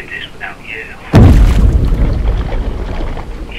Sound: boat thud

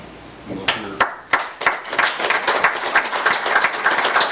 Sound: audience applauds

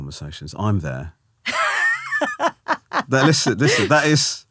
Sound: laughing

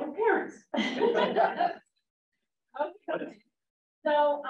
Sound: laughter

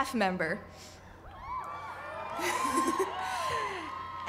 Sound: cheering

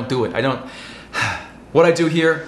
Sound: sigh

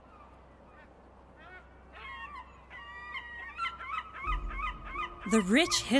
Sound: seagulls and ocean sounds

